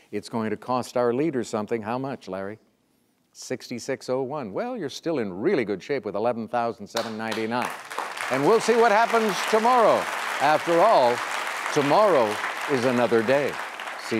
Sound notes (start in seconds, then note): 7.0 audience applauds